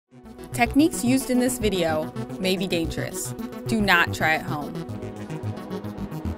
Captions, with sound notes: - [Voiceover] Techniques used in this video may be dangerous. Do not try at home.